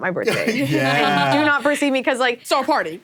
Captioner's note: laughs